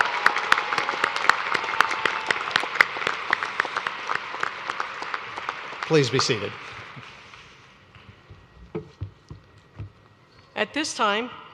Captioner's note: cheers and applause